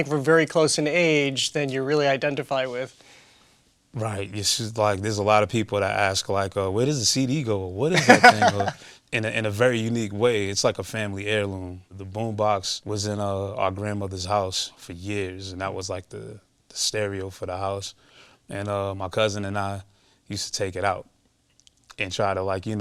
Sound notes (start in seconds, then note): 7.9 laughs